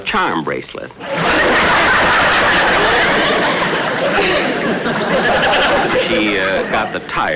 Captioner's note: audience Laughing